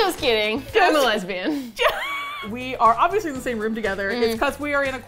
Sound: wheeze laughs

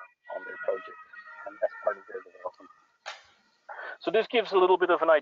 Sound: sirens passing

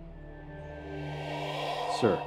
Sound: atmosphere whooshing

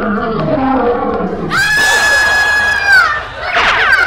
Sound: scream

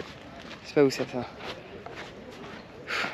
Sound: speaking in foreign language

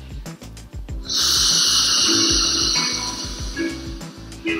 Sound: inhales deeply

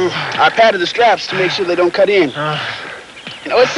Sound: panting

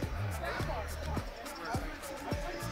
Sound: people chattering

